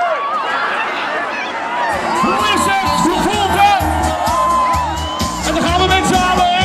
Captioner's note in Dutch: publiek juicht